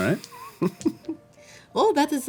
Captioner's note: chuckling